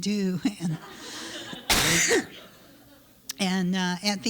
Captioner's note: laughter